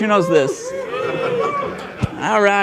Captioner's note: audience cheers